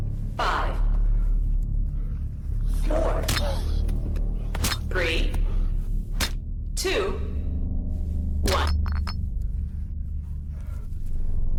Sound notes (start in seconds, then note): 8.4 bone crunch